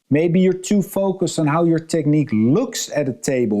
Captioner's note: none